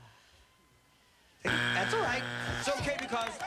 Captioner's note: buzzer